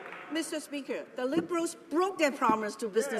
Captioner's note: applause